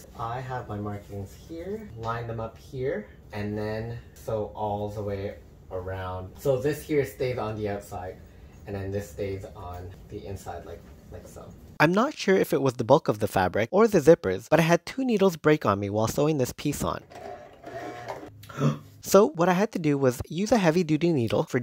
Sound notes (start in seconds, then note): 17.0 sound of stalled machine; 18.4 gasp